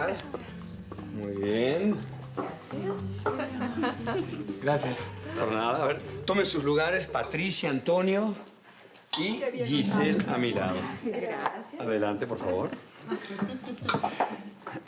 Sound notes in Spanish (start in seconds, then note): 3.4 Risas